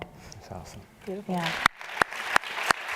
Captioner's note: applause